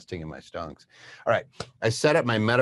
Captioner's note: claps